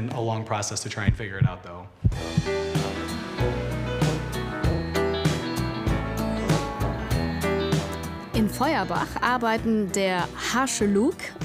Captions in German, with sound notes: (Herzpochen) (Lässige Musik) In Feuerbach arbeiten der harsche Luke